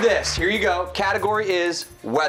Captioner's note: cheers and applause